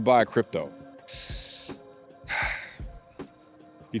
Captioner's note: sigh